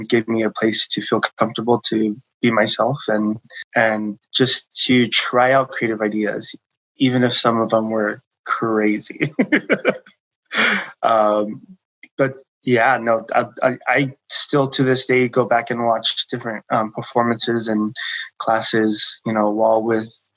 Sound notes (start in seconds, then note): 8.8 laughing